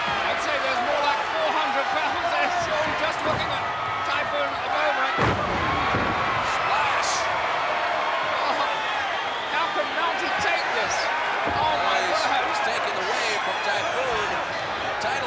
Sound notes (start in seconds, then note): 5.1 body thudding